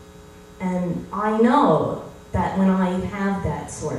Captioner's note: none